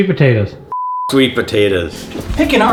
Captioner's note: beep